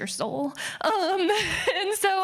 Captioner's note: laughing